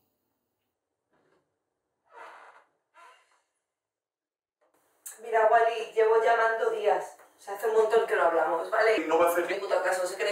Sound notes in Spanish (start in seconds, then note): none